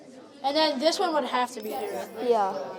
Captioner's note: chime